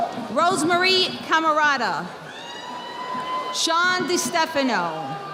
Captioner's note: audience applauding